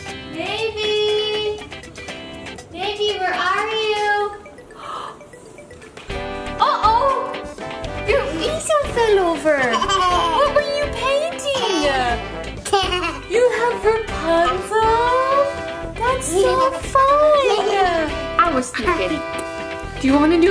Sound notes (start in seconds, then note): 4.7 mom gasps; 9.5 giggles; 17.2 continues giggling